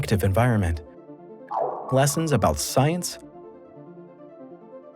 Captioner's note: satellite beeps